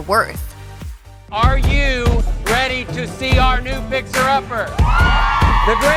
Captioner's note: cheers